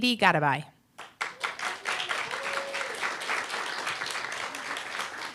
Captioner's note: applause, cheer